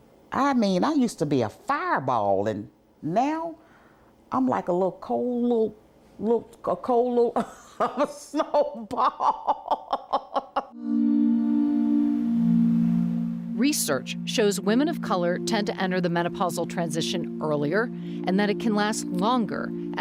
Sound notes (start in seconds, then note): 7.4 laughs; 10.8 soft music